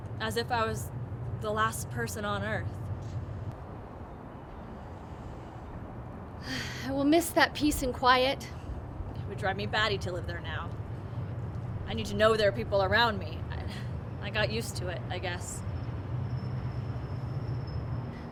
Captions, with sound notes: As if I was the last person on earth. - (sighs) I will miss that peace and quiet. - It would drive me batty to live there now. I need to know there are people around me. I got used to it I guess.